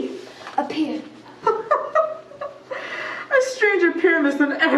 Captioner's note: Puck chuckles